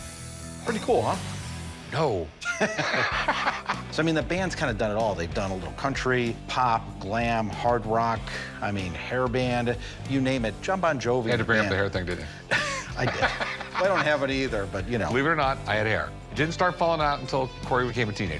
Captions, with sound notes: - Pretty cool, huh? - No. [laughter] - So I mean, the band's kinda done it all. They've done a little country, pop, glam, hard rock, I mean, hair band, you name it. Jon Bon Jovi-- - Had to bring up the hair thing, didn't you? - [laughs] I did. I don't have any either, but, you know-- - Believe it or not, I had hair. It didn't start falling out until Corey became a teenager.